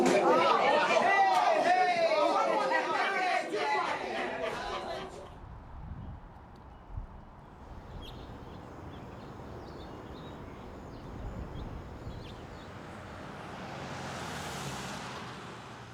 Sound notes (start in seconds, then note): 3.4 chattering and laughing continue; 7.4 birds chirping